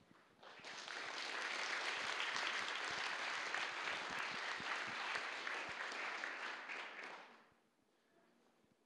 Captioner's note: applause